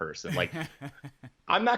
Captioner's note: laughing